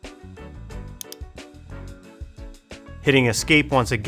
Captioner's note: mouse clicking